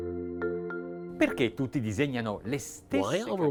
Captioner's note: light vibraphone music; speaking foreign language